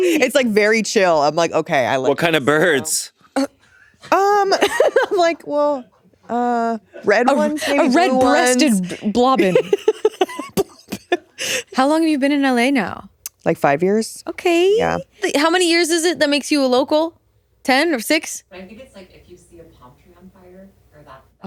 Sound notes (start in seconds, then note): 3.3 giggling; 8.4 chuckling